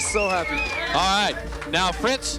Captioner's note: people whistling and cheering